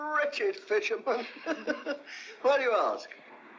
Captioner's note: laughs